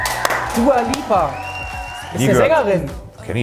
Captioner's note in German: Jubel